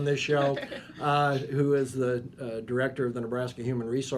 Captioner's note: laughing